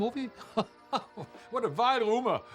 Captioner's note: hans chuckling